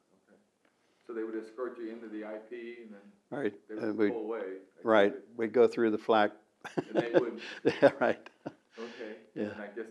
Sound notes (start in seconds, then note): 6.6 laughs